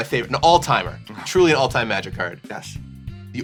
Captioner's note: sighs